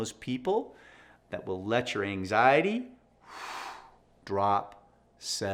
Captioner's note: sighs